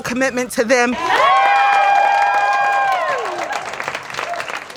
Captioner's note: crowd cheering